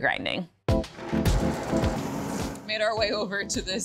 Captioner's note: jazzy music; machine whirring